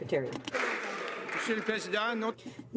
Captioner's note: some Applause